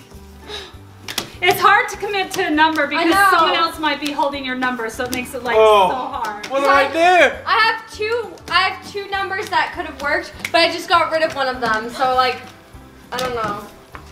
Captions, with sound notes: Oh my goodness. - It's hard to commit to a number because someone else might be holding your number so it makes it so hard. (groans) - What did I do? - I have two, I have two numbers that could have worked but I just got rid of one of them so like I don't know.